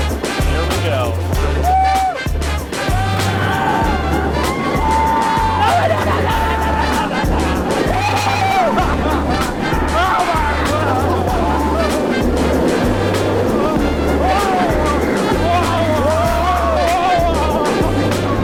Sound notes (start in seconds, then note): 7.6 lots of roller coaster screaming